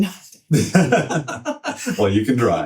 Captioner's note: both laughing